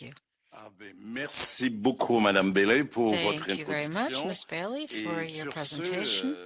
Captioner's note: speaking French